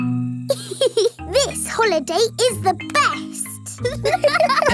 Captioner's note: giggles; laughing